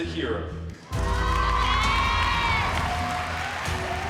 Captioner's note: applause